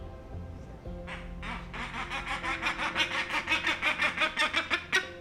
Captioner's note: bird squawking